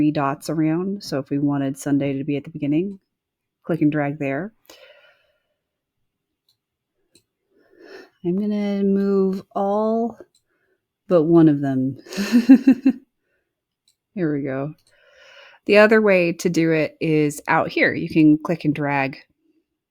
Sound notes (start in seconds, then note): 12.1 chuckles